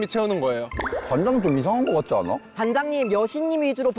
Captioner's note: unconvincing sound effect